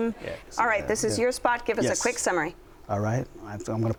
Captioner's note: none